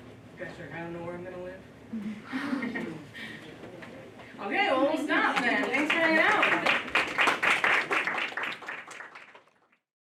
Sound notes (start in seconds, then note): 2.0 laughing; 7.1 applause